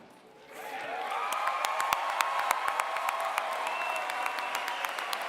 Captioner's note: applause